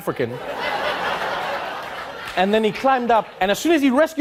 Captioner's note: audience laughing